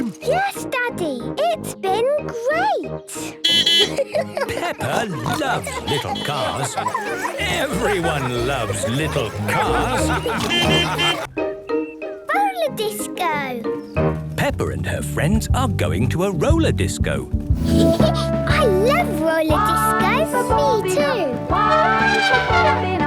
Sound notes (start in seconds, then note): 3.4 beeping and laughing; 9.4 laughter; 10.1 beeping; 17.6 Peppa laughing; 21.6 trumpeting